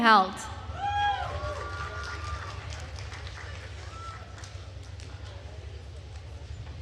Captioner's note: attendees cheering and applauding